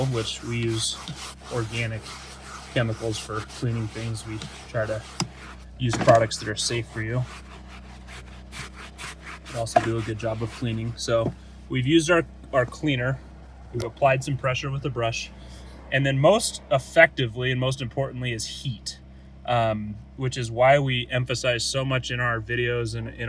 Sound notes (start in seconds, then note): 7.8 brush scrabbing